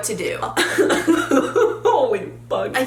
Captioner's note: laughs